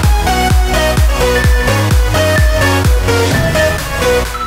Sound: alarm beeping

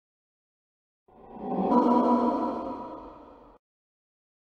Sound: sound of horror discovery

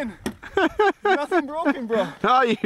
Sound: laughing

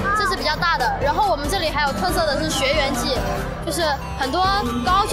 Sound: in mandarin

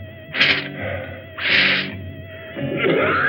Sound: sniffs

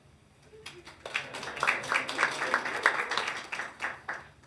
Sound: hands clapping

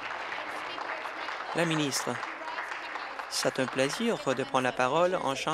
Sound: applause

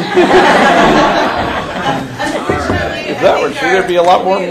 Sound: laughter

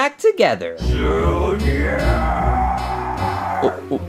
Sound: screams

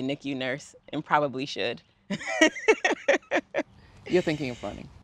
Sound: laughs

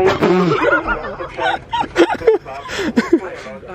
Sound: laughter

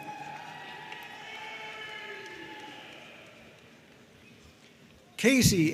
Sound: audience cheering and applauding

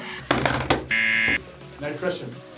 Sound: buzzer rings

